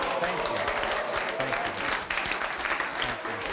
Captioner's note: applauding